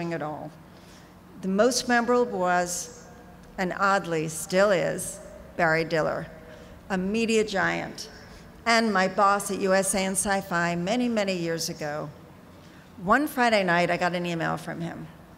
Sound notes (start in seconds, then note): none